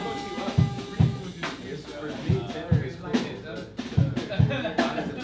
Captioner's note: musicians talking